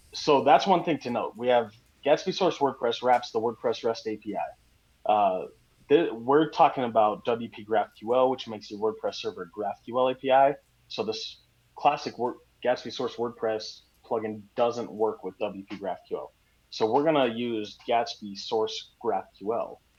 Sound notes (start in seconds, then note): none